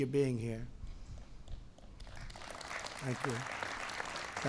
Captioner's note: applause